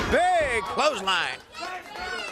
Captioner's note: crowd chatter